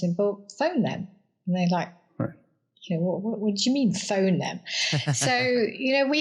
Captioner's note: laugh